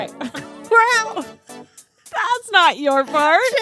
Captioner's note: both laugh